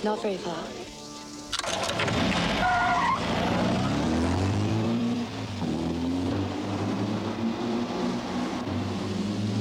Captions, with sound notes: - Not very far. (tires squealing) (engine rumbling)